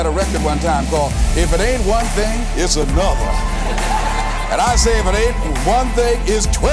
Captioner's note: laughter